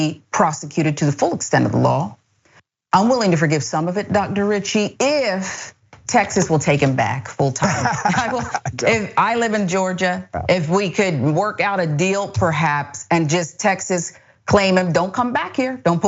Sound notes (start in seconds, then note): 7.6 laugh